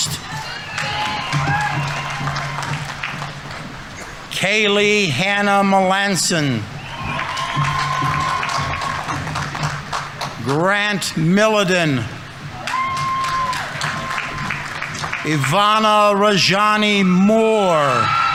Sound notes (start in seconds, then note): 0.0 audience applauding; 6.4 audience applauding; 7.0 audience members cheering; 12.3 audience applauding; 12.5 audience members cheering; 17.7 audience applauding; 18.1 audience members cheering